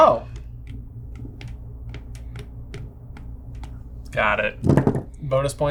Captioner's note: stylus tapping